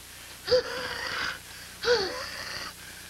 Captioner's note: she continues wheezing heavily